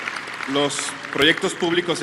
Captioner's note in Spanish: aplausos